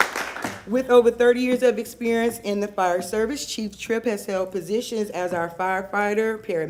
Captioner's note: applause